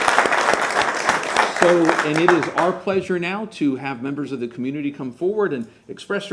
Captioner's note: applause